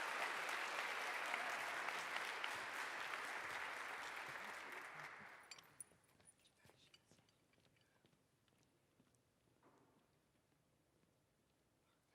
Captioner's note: applause